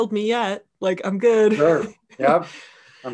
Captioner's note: laughing